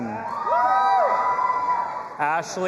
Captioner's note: audience applauding and cheering